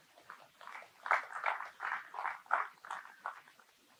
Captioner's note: clapping